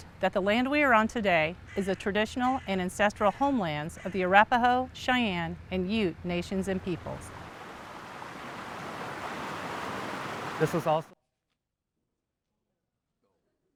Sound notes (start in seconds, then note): 7.0 water sloshing